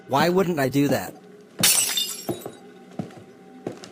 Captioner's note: shattered glass and footsteps